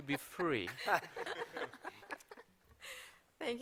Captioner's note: laughter